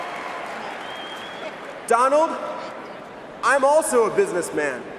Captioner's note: cheering and applause